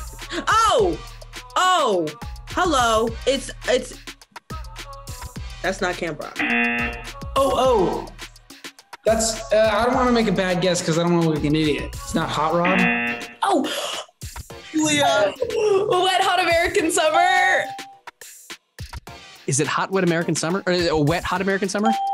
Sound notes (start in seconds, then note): 6.4 buzzer rings; 12.6 buzzer rings; 17.4 bell rings; 21.9 bell rings